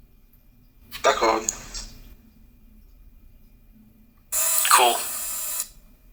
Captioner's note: speaking foreign language; desktop speaking foreign language